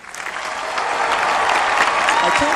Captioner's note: applause